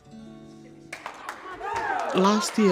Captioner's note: applause